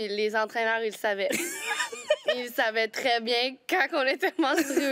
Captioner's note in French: rires